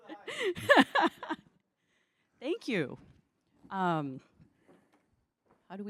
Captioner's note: laughter